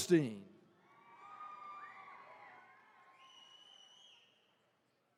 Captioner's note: attendees cheering